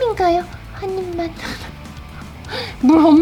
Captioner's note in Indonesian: tertawa